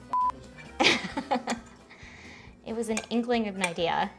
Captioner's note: beep